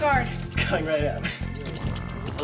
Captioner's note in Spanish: riendo